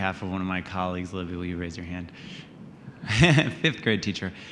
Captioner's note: laughs